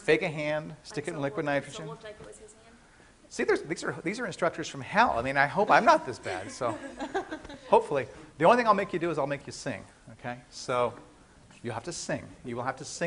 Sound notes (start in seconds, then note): 7.7 class laughing